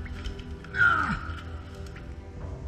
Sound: archaeologist grunting

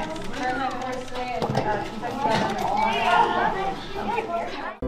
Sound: overlapping chatter

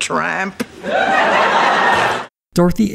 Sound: audience laughter

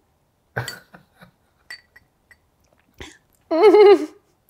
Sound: laughs

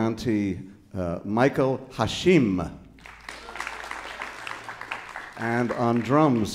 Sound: audience applauding

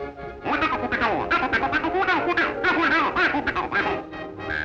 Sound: squeaking; frantic orchestra music

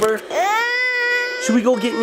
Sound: cries

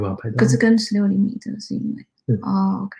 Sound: speaks mandarin

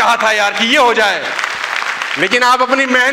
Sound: rounds of applause

